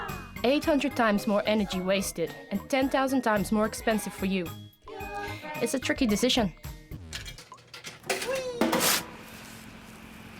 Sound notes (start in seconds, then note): 6.9 coin clanging